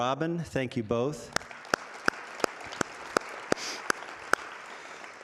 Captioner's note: audience applauding